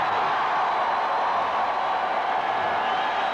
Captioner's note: cheering